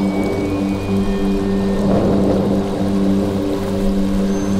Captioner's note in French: tonnerre